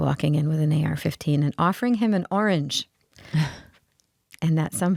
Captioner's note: laughing